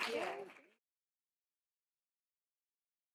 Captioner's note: applause